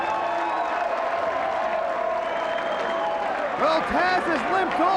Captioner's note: crowd cheering